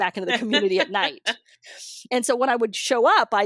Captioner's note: laughs